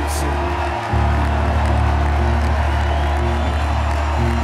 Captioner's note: crowd cheering